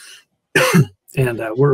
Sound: coughs

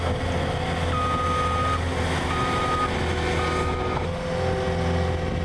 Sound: skid steer beeping

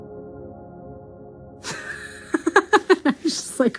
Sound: laughs

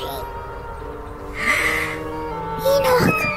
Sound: gasps

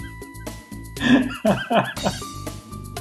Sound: wheezing laugh; laughs

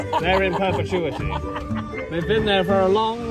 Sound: laughing

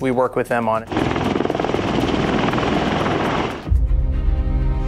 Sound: blades rumbling

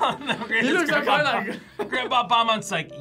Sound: laughs

